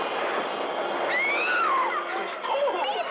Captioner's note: screams